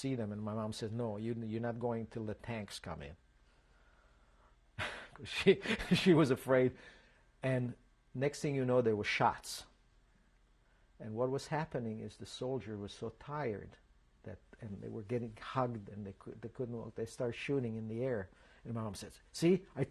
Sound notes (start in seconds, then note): 4.8 laughs